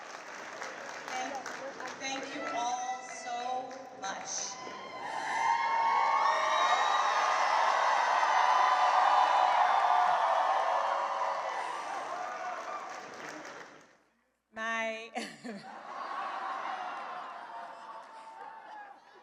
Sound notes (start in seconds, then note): 7.1 cheering and applause; 15.1 laughter